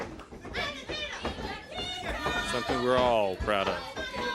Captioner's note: crowd chatter